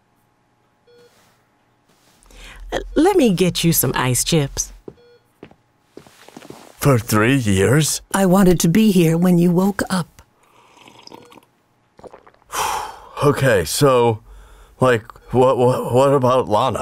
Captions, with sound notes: - Let me get you some ice chips. - For three years? - I wanted to be here when you woke up. - [Sips drink, swallows] [Exhales sharply] Okay, so, like, Wh-wh-what about Lana?